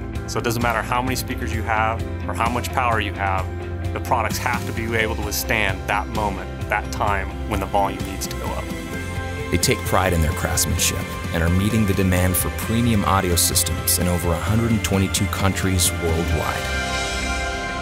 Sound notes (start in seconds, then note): 9.6 voiceover